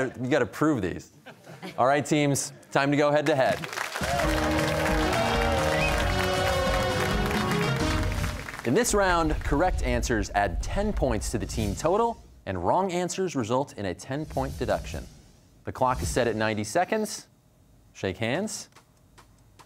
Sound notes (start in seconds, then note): 3.6 cheers and applause